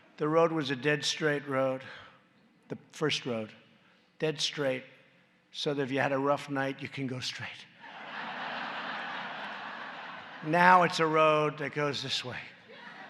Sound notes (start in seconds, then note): 7.8 laughter; 12.7 laughter